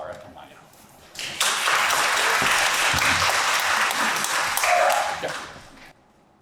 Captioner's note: audience applauds